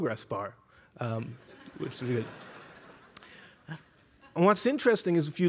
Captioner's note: laughter